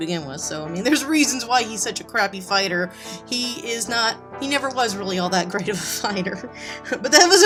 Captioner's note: giggles